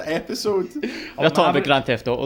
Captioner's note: laughter